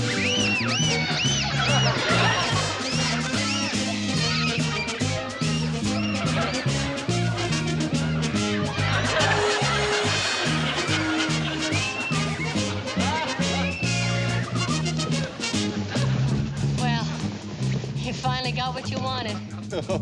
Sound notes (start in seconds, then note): 0.1 all screaming; 0.3 quirky music; 2.3 audience laughing; 2.3 quirky music; 9.1 audience laughing; 9.1 children screaming